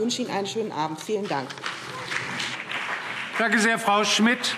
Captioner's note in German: Beifall BÜNDNIS 90/DIE GRÜNEN und CDU